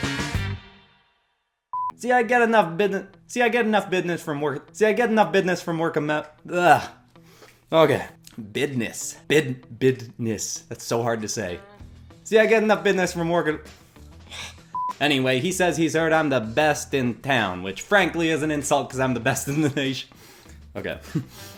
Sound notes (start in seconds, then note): 1.7 beep; 14.7 beep; 21.0 chuckles